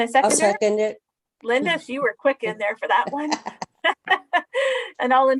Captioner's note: laughs